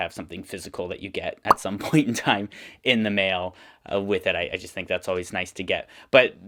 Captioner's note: pop sound